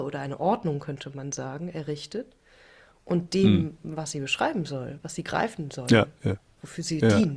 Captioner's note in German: räuspern